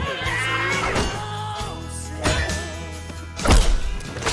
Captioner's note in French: grunts; screams; blade clangs